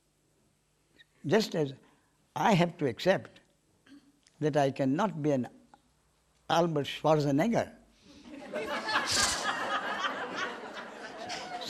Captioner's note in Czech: smích